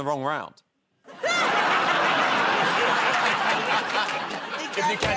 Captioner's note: laughter